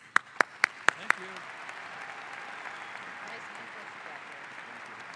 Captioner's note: audience applauds